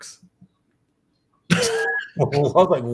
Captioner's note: laughs